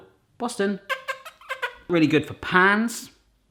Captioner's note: kissing